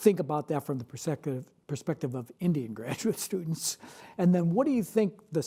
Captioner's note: chuckles